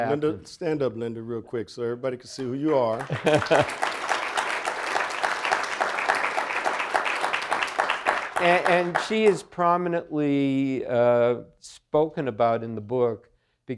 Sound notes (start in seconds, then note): 2.6 audience applauding